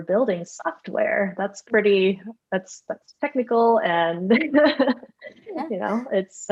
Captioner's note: laughs